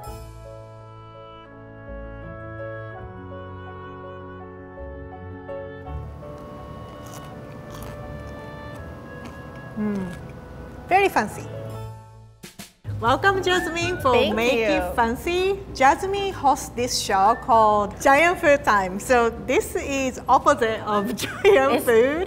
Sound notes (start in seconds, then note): 0.1 whimsical piano music; 6.8 crunching